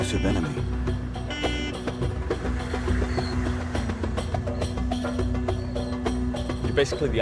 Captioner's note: car horn